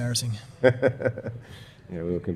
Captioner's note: laughter